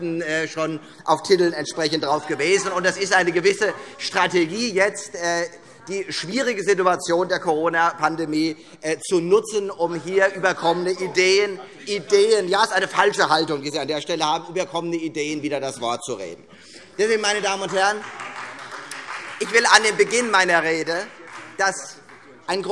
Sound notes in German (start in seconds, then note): 12.1 Beifall Freie Demokraten